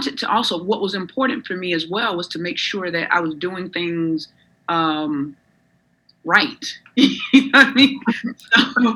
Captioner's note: laughs